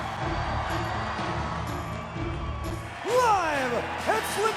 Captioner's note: dramatic music; crowd cheering